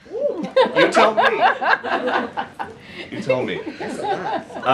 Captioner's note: laughter